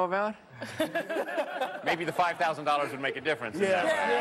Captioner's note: laughter